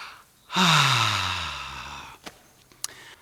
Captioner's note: sighs